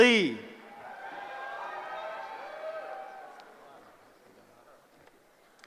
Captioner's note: cheering